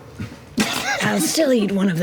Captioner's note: laughter